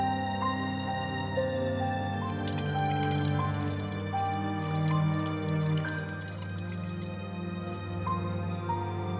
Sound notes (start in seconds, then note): 2.1 wine splashing